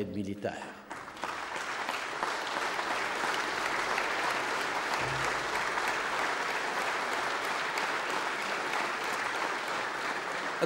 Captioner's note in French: Applaudissements